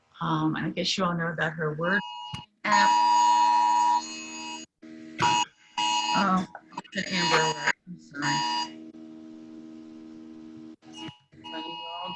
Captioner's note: louid buzzing noise